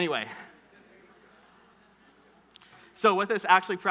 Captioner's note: audience murmuring